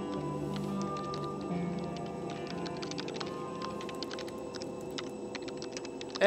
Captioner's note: keyboard tapping; light music